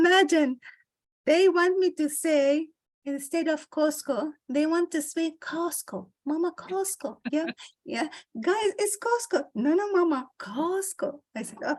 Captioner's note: American accent